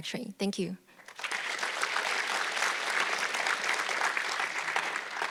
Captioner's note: audience clapping